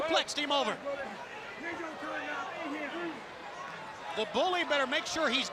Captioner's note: crowd chatter